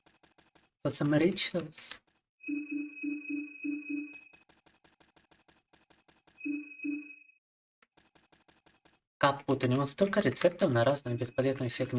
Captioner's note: speaking Russian